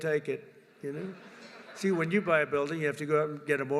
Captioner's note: laughter